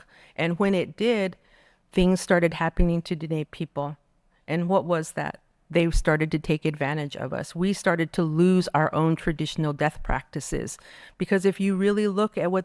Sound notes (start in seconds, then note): none